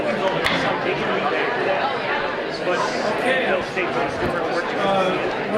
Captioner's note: none